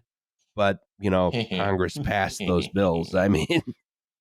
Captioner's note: softly laughs like a cartoon villain